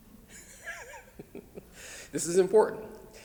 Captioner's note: laughs